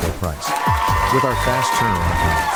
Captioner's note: audience applauding